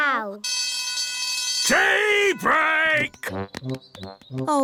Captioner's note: alarm ringing